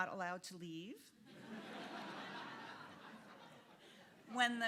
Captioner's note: audience laughing